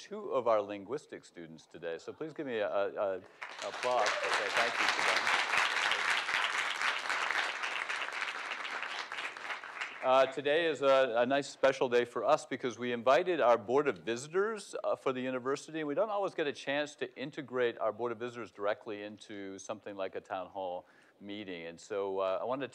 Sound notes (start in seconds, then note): 14.3 applause